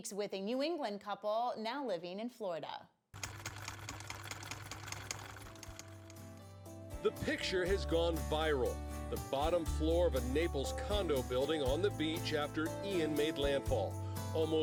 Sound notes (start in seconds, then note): 3.2 typewriter keys clack